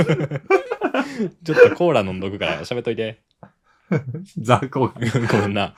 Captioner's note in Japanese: 笑い